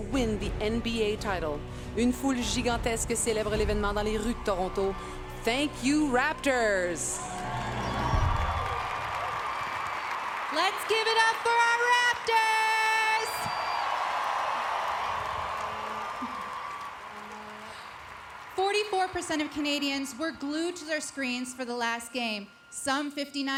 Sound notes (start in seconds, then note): 0.0 speaking French; 7.4 speaking French; 14.1 applause; 23.0 cheers and Applause